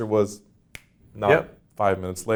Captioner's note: fingers snap